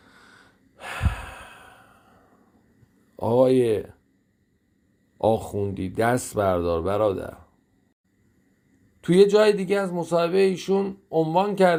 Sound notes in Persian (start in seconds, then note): 0.8 صدای آه; 0.8 صدای بند آمدن نفس